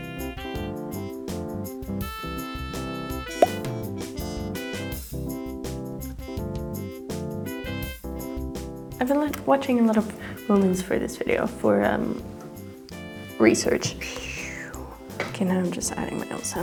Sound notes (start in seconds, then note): none